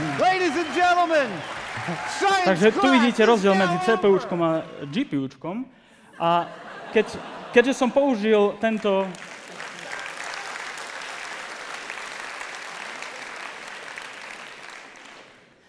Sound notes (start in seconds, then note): 6.2 laughter; 8.6 applause